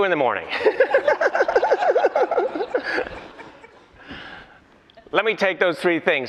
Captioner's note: laughter